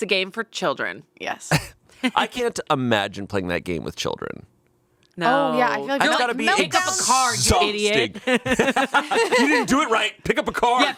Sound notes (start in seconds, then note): 8.3 all laughing